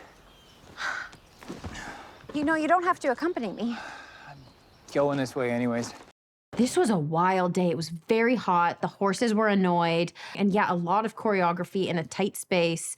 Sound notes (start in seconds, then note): 1.3 sighs